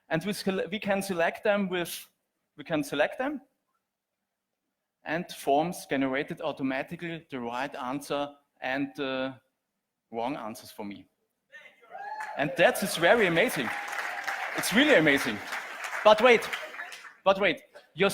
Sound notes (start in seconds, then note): 11.9 audience cheers; 12.0 audience applauds